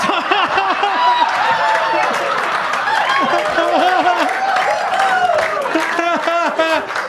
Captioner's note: laughs; audience laughs; audience claps